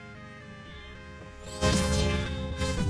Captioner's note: zap!